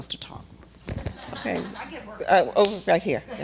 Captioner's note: laughter